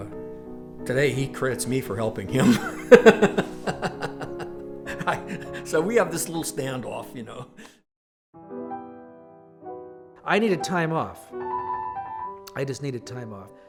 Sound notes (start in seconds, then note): 2.4 laughs